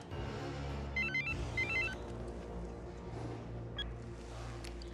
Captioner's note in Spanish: suena el celular